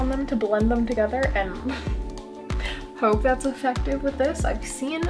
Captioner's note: laugh